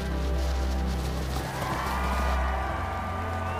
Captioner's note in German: Jubel